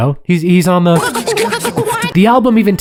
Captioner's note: beatboxing